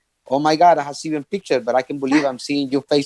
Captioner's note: laughing